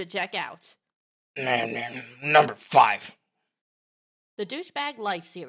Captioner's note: grumbling